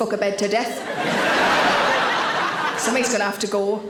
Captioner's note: audience laughing